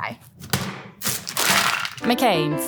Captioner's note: fries pack thudding; plastic crinkling